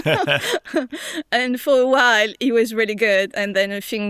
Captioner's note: laughs